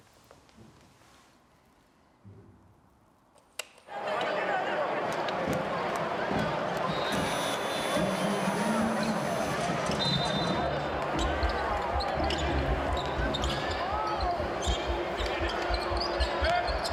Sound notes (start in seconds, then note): 9.9 referee whistles; 12.3 dramatic music